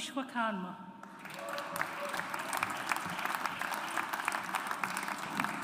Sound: audience applauds

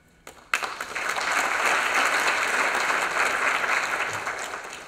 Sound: applause

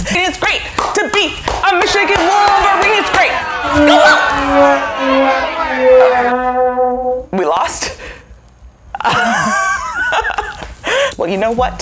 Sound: boos and sad trombone in the background

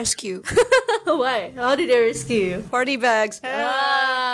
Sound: chuckles

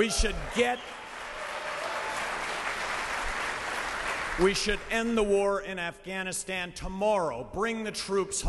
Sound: cheering and applause

